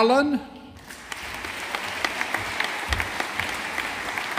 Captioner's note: audience applauding